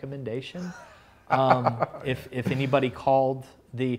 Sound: laughs

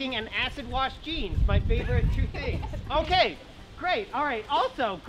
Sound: female laughs

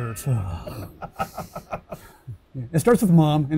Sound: laughing

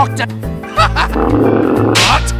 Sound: Medic's laugh becomes deep

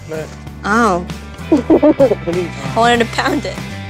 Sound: laughs

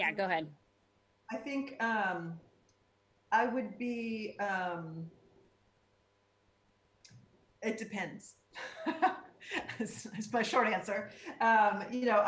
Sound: laughter

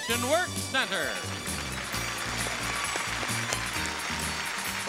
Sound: upbeat music; audience applauding

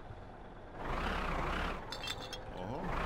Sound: engine accelerates

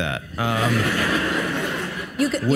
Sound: audience laughs

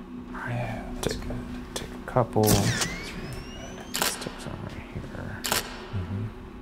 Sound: camera shuttering

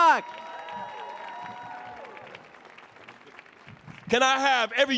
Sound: audience cheering

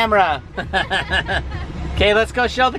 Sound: laughing

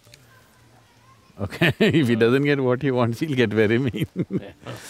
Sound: laughs

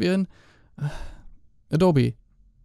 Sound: sigh

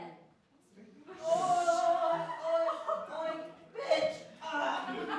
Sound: laughter

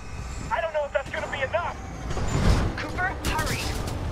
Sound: radio

